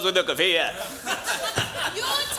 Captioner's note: crowd laughs